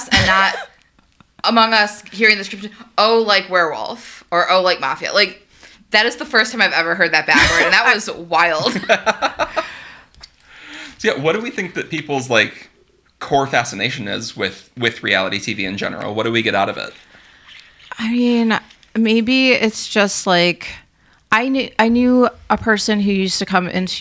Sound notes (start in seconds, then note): 9.6 laughing